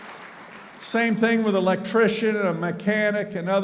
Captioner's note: applauding